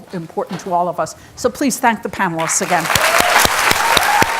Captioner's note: audience applauding and cheering